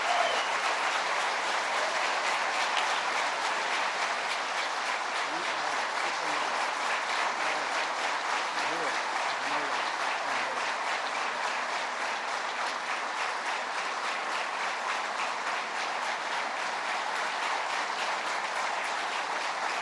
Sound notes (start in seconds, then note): 8.8 applause